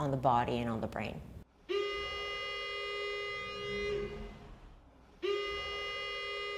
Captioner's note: alarm blaring